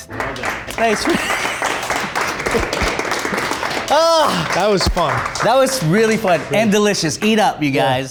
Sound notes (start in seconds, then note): 0.0 audience clapping